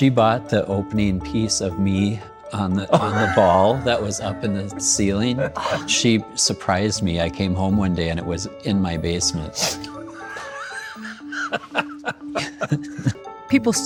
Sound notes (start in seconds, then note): 2.9 laughing; 5.5 gasping; 10.1 everybody laughing